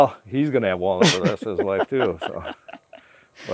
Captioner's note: laughing